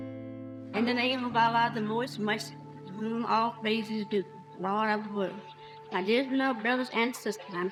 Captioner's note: voice-over